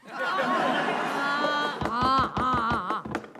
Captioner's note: All laughs; Gavel bangs